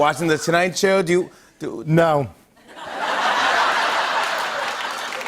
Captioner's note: laughter